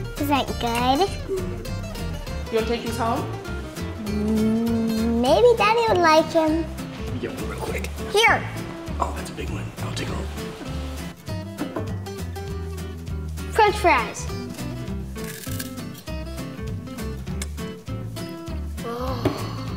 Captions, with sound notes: Is it good? - Maybe daddy would like 'em. - French fries. (crunch) Ooh.